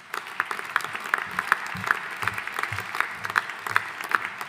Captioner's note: audience applauding